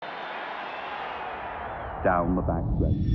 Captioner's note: crowds cheering